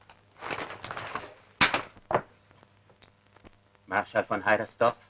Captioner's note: rustling sound